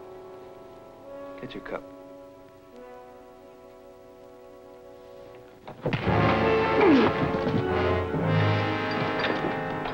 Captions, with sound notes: Get your cup. (Scuffling)